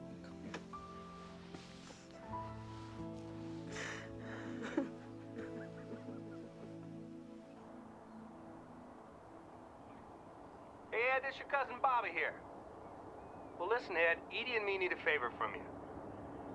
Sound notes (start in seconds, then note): 3.6 sobbing